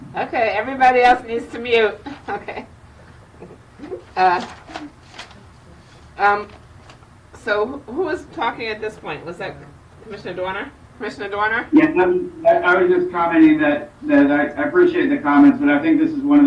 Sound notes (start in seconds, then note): 3.3 laughs